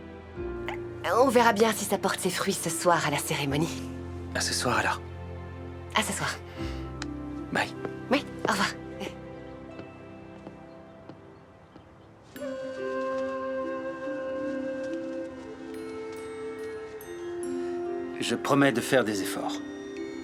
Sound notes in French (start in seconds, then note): 9.2 Sophie glousse